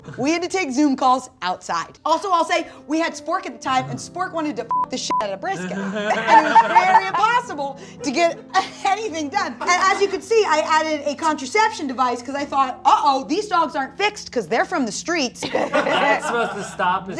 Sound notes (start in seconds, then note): 4.7 beep